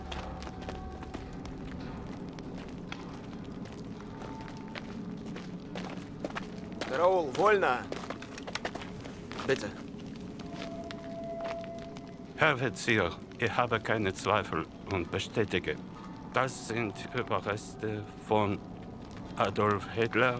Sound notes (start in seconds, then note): 9.3 Gusev speaking German; 12.2 expert speaking German